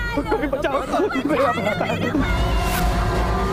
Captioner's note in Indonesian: tertawa